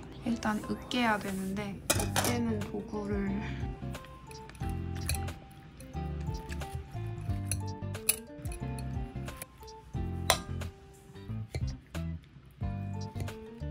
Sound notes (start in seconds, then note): 9.0 eating